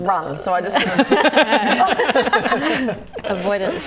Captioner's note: laughing